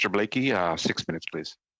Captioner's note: speaking French